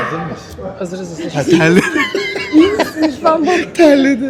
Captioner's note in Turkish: kahkaha